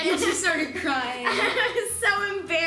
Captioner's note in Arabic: يضحك